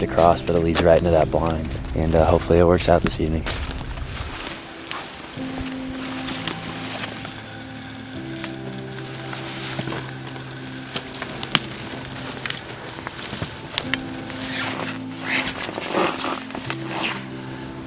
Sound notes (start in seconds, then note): 5.3 sound of walking, soft music